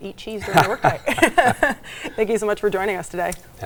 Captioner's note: group laughing